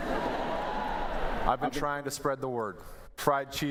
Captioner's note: laughter